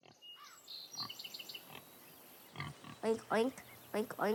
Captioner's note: pig grunting